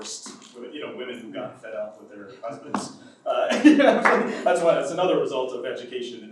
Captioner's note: laughs